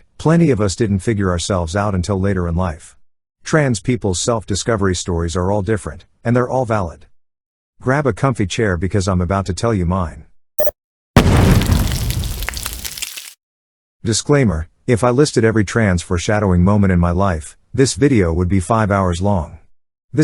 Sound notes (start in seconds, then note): 10.4 robot noises; 11.2 explody noise; 11.2 crackling fire